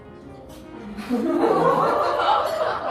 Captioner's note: Laughter